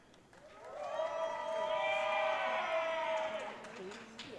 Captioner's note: audience cheering